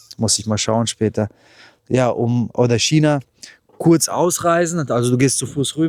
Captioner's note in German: none